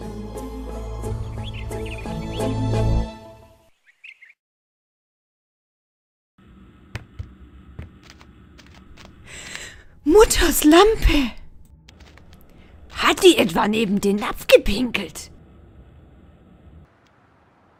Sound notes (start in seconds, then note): 9.3 gasp